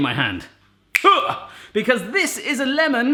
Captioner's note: clicks fingers